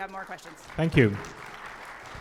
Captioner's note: audience applauds